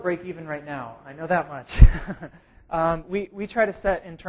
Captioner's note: laugh